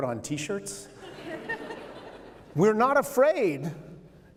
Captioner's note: laughter